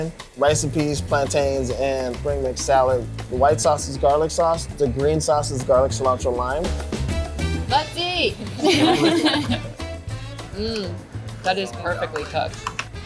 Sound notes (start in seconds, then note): 8.4 laughs